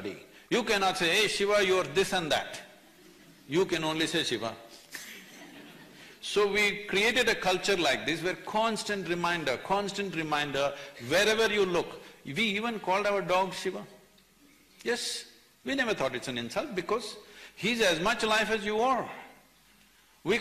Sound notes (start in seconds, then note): 4.8 few laugh